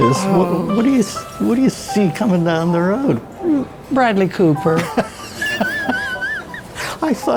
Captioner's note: laughs